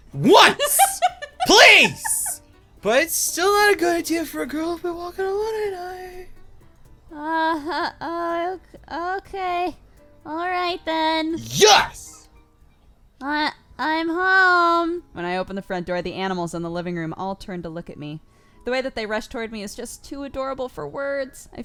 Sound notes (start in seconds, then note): 0.2 laughs; 1.3 cry; 11.4 cry